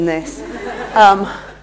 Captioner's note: laughter